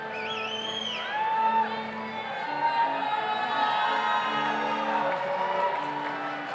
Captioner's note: audience member whistles; audience cheers